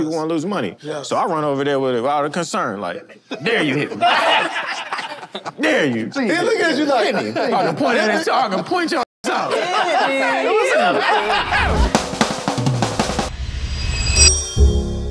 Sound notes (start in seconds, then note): 3.2 group laughs; 9.2 group laughs; 11.8 mellow beats music